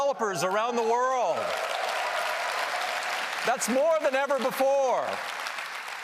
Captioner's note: applause